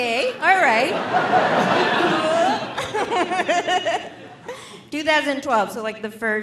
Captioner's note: audience laughing